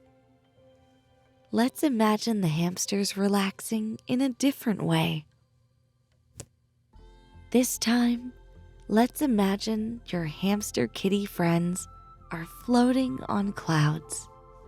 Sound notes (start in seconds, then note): none